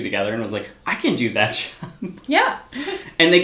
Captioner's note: laughs